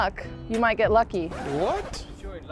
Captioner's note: screen screeches